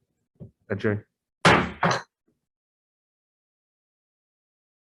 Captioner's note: gavel slamming